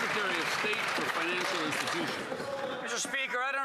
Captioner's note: applause